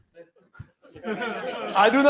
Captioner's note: laughter